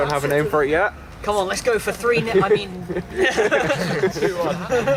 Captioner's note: laughter